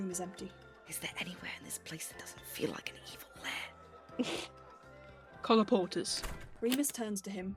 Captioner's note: James snorts